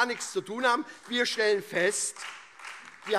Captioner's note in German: Beifall SPD, Freie Demokraten und DIE LINKE